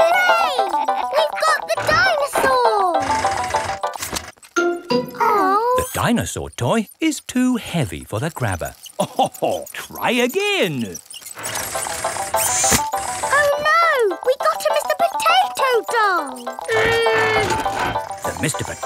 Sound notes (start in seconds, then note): 8.9 chuckles